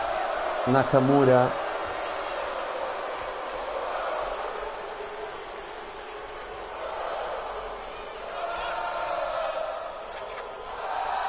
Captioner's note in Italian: Applauso